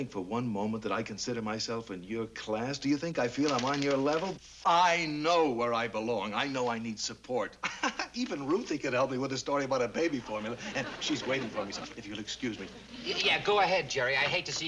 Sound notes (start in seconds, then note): 7.6 laughs